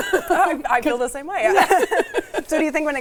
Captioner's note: laughing